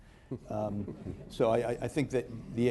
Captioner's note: laughter